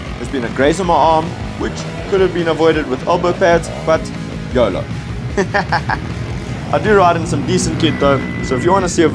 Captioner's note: painful laugh